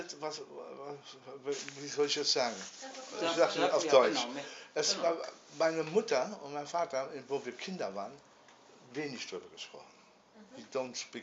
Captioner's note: speaking in German